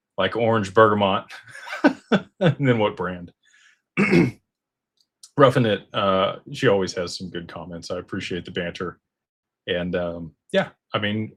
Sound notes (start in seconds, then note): 1.4 laughter; 4.0 clears throat